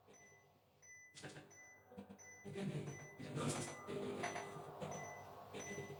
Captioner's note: distorted vocalisations heard